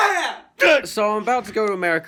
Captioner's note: sobs